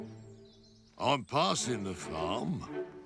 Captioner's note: none